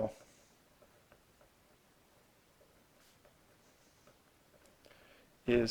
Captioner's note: writing